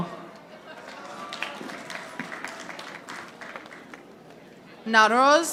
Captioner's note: audience applauding